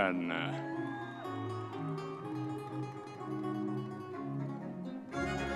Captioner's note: audience members cheering